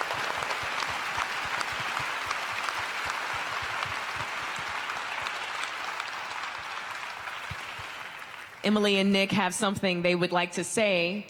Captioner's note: applause